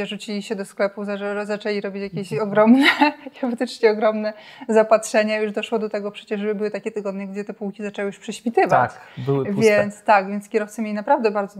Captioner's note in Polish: śmiech